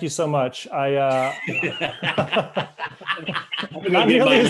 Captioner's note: all laughing